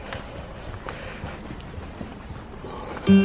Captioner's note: bird song and rustling leaves; acoustic folk music